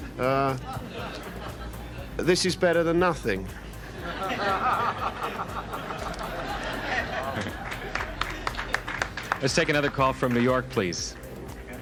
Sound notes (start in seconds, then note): 0.2 audience laughs; 3.8 audience laughing and applauding